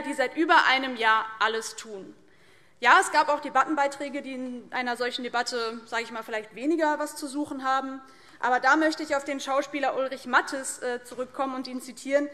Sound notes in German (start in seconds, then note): none